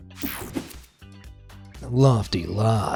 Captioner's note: screen whooshing